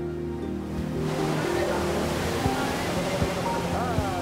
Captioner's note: waves crash